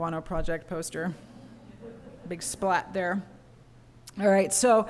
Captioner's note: laughter